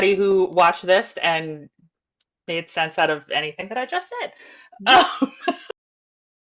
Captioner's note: laughs